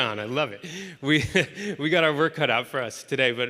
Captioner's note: chuckles